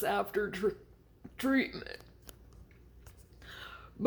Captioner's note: breath & Swallow